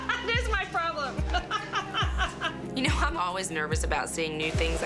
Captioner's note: laughs